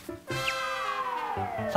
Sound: swoosh

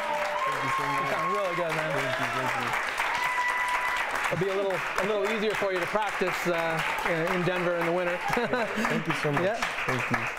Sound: cheering

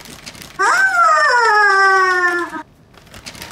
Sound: squawk

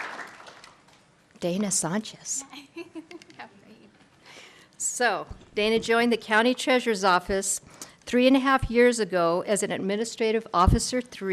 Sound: applause

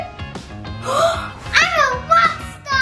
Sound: gasping

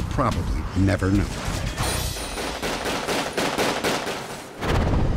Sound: gunfire

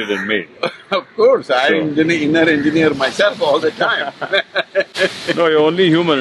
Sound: both laugh

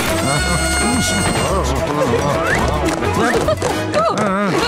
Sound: laughing

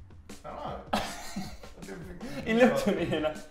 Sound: laughing

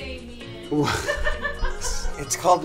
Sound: laughing

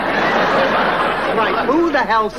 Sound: audience laughing

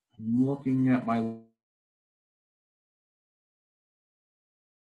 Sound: audio cuts out

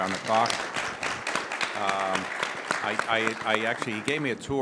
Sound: audience applauding

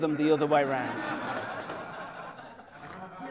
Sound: laughter

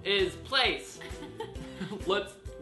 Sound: laughs

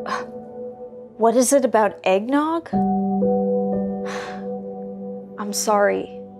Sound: scoffs; deep sigh

